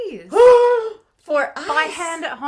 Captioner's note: shrieking